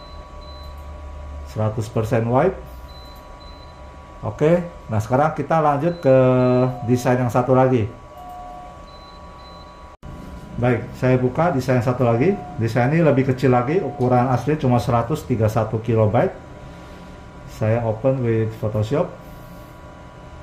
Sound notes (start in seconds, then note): 5.5 doorbell sound